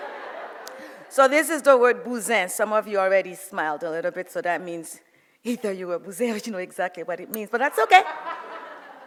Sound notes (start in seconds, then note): 0.0 audience laughs; 1.8 speaks foreign language; 5.4 speaks foreign language